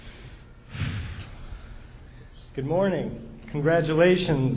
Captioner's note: exhales